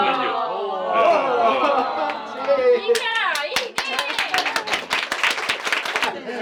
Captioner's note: applause